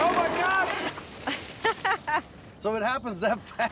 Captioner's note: laughing